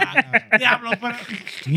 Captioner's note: speaking Foreign Language